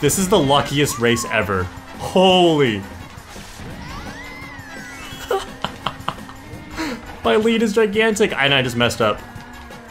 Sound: laughs

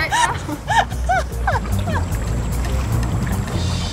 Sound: laugh

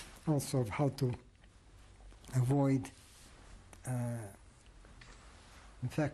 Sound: pauses for 3 seconds

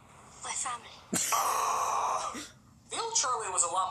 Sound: Nostalgic Critic Covers his ears while groaning

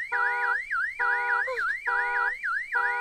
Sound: siren wailing; Sammy whimpers

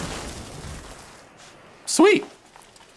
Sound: rain falling

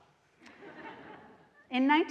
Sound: audience laughs

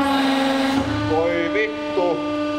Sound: Speaking nervously in Finnish

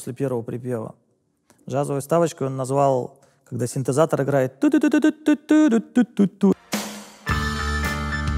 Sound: vocalizes; animal Jazz

